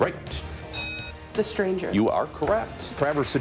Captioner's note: bell dinging